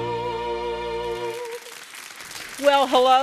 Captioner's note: audience applauding